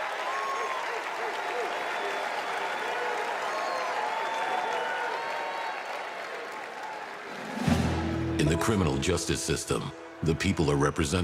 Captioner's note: applause